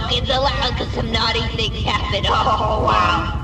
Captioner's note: chuckling